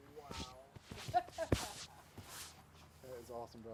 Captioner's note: laughing